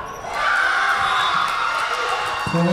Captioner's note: crowd cheering; whistle blowing